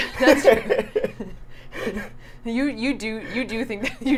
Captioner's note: both laughing